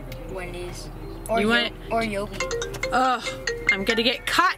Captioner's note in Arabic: رنين الهاتف